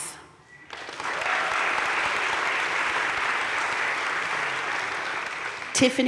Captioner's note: crowd cheering and applauding